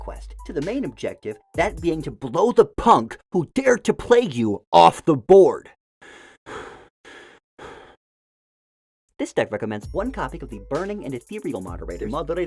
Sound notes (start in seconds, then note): 6.0 deep breathing; 9.1 calmly